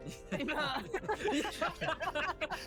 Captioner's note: laughs